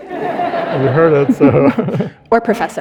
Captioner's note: audience laughing